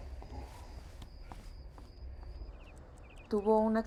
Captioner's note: crickets chirping